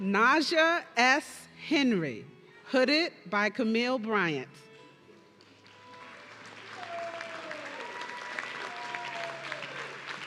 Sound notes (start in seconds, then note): 6.4 audience cheering